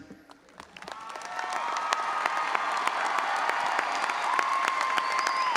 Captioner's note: all applauding and audience cheering